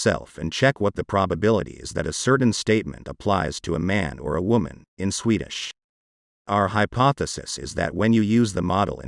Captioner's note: in Swedish